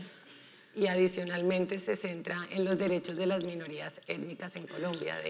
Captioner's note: speaking in foreign language